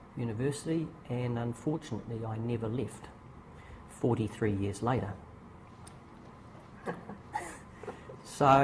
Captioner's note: laughter